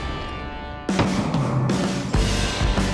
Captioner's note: gun shots; rock music